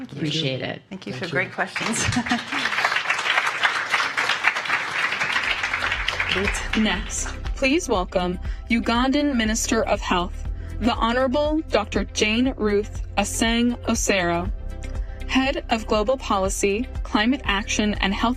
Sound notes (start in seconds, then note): 8.2 applause